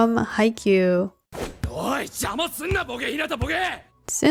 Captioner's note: angry Kageyama noises